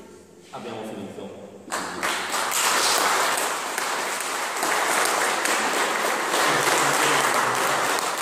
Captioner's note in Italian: Applauso